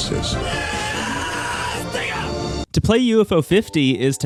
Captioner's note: screaming